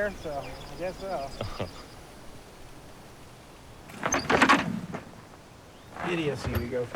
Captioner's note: laughs